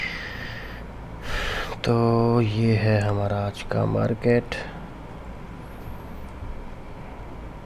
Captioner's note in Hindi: गहरी सांस लेने की आवाज़